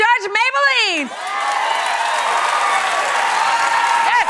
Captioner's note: cheering and applause